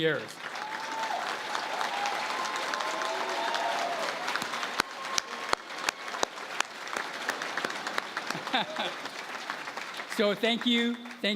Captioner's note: applause